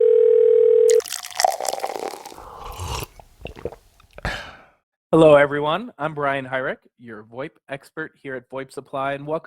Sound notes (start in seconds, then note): 0.0 phone ringing; 0.9 water pouring; 2.6 sipping